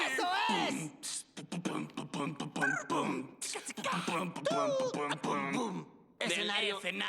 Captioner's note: beat-boxing